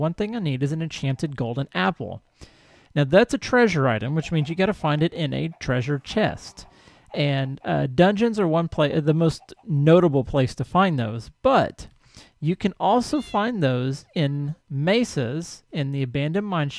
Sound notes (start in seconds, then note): 3.3 clucking continues; 6.7 cow lows; 13.0 cat meows